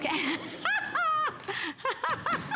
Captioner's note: laughter